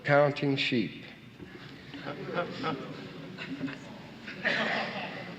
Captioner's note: audience laughing and murmuring